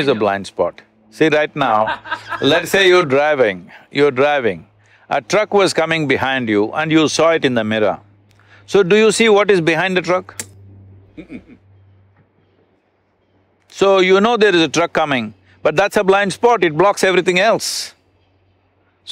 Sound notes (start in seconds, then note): 1.7 Matthew laughs